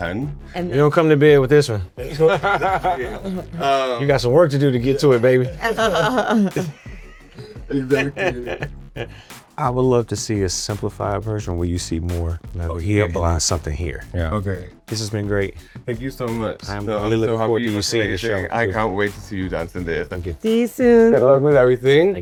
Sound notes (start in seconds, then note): 2.0 laughs; 6.8 crew laughs